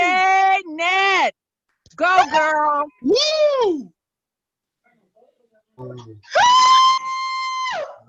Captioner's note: cheering